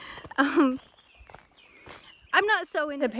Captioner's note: laughs